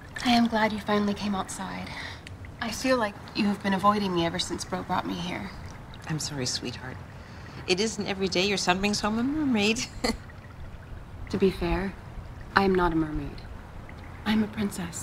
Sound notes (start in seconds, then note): 10.2 laughs